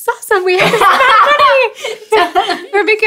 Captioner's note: laughing